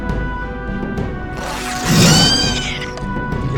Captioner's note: shrieks